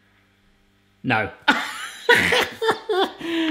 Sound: laughs

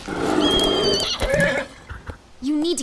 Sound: horse whinnys

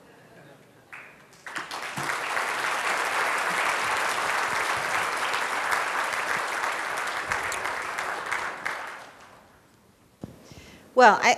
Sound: applause

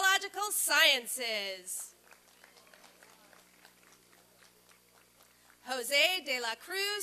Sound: applause and cheering

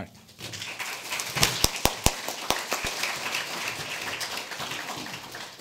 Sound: audience applauding

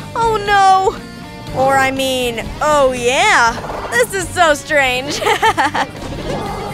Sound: chuckles

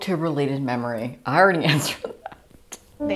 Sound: laughing painfully

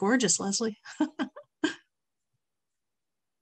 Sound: laughs

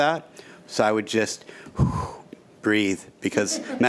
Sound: exhales

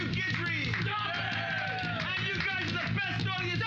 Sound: cheers and applause

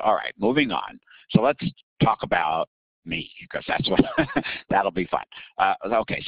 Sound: laughing

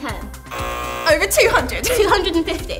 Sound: buzz

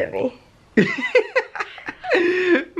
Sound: laughs

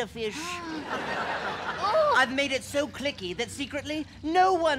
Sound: laughter

